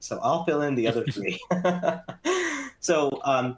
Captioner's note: laughter